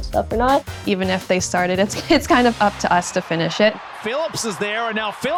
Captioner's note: laugh